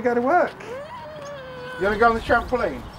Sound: whines louder

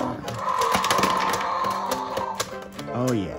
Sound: dinosaur roars

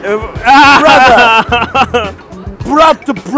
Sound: laughs

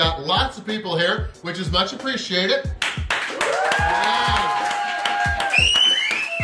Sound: crowd

